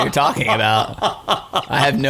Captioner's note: laughing